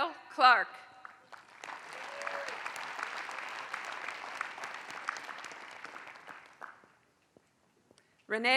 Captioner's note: applause